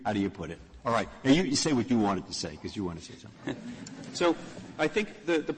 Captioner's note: laughter